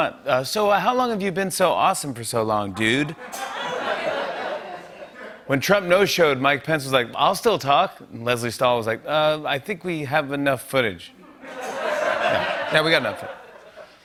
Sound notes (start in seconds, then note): 2.8 laughter; 11.2 laughter